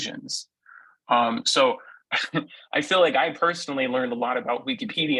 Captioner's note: laughs